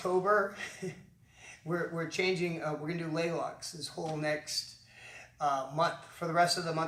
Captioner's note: chuckles